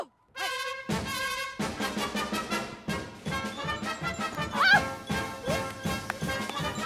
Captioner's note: laughs